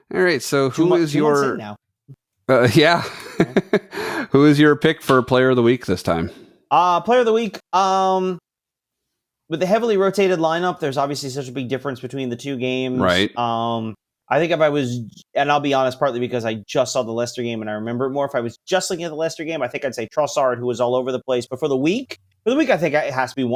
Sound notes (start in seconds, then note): 2.7 laughs